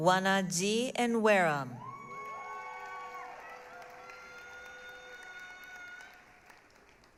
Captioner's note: applause, cheering